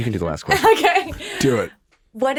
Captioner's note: laughs